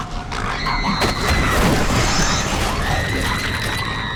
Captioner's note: snarling; screaming